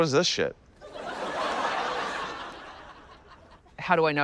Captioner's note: laughter